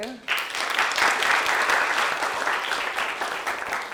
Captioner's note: clapping